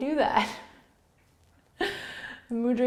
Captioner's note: laughing